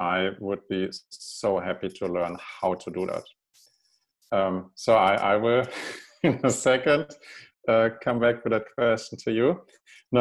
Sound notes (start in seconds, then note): 5.5 chuckles